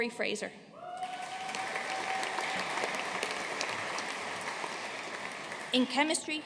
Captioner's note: audience cheering and applauding